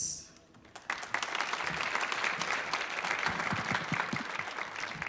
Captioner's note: audience applauding